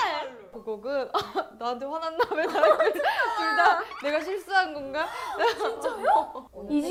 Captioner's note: laugh